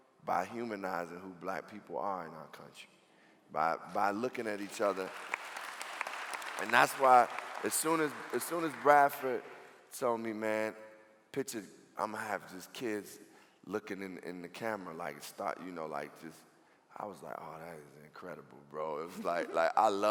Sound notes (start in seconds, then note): 4.2 clapping